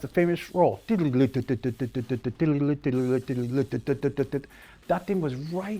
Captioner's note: mimics drums beating